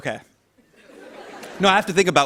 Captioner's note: laughter